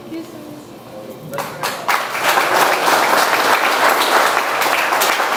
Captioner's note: audience applauds